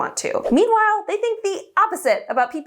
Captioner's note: air whooshing